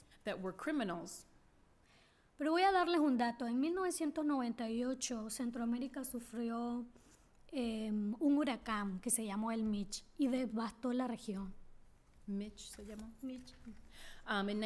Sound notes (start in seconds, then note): 2.3 speaking spanish